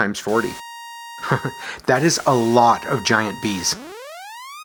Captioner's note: chuckles